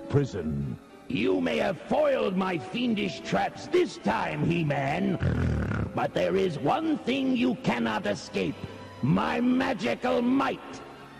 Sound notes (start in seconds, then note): 5.2 snort